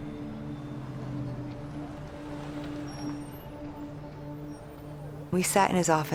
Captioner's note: street noise